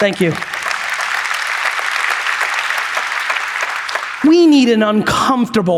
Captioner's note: audience applauds